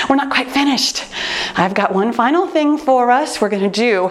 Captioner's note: none